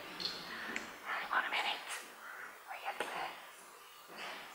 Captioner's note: whispers